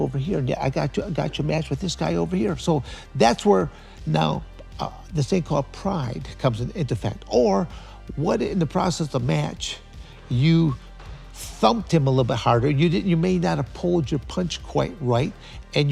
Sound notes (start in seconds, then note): none